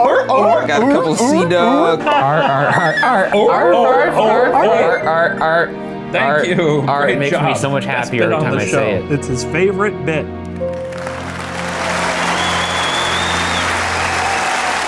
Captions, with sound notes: (all mimicking sea dog bark) We got a couple of sea dogs. (all mimicking sea dog bark) Thank you, great job! - It makes ne so much happier every time I say it. - It's his favorite bit. (crowd clapping and cheering)